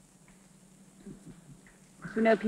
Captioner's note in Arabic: يضحك